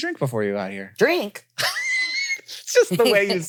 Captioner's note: wheezes